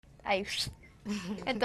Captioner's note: fx sound